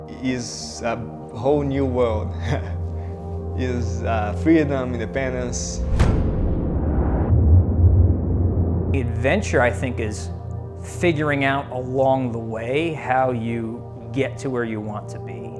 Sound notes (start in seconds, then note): 2.4 laughing